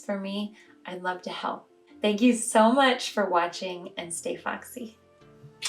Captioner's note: blows a kiss